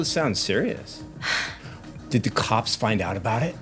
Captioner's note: sighs